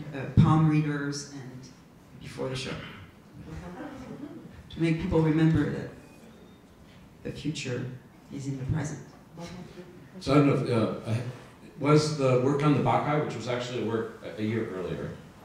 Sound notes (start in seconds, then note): 3.4 audience laughs